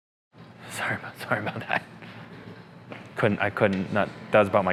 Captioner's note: chuckles